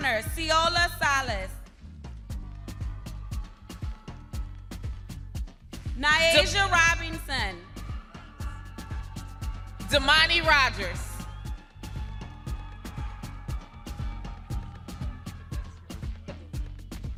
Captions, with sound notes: Nayaja Robinson. Damani Rogers. (upbeat music continues) (crowd cheers) - Robert Agnew Jr.